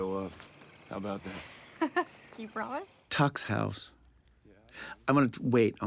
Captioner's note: chuckling